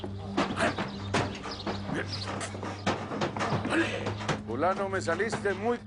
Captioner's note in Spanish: Ruido al patear el caballo la caseta